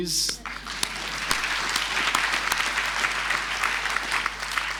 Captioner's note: crowd applauding